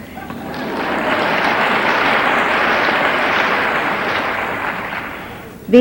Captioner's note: audience applauding